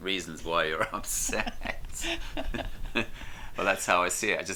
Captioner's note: laughter